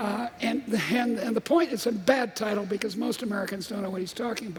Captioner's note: laughter